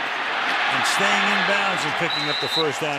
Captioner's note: cheering